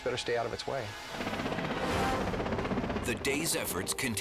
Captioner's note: helicopter whirring